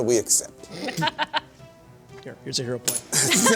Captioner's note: laughter